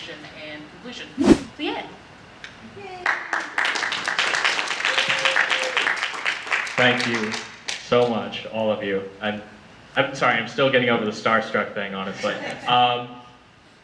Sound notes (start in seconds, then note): 3.3 audience applause; 12.4 audience laughter